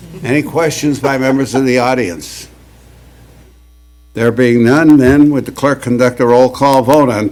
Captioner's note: laughter